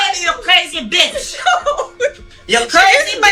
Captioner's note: laughing